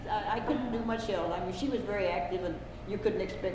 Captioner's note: laughter